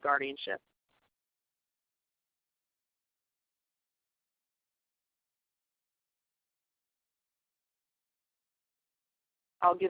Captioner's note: silence